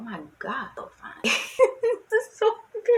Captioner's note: laughs